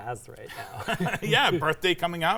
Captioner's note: both laughing